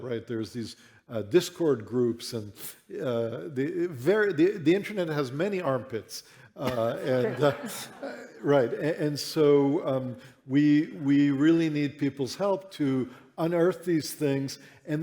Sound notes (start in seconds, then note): 6.6 laughter